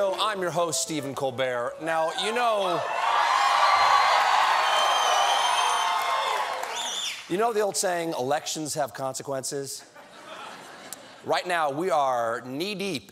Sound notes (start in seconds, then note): 2.0 cheers and applause